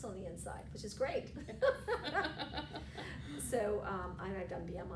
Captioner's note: laughter